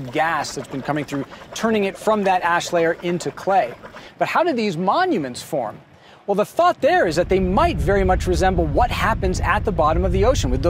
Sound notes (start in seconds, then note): 0.0 water burbling; 7.0 smokers rumbling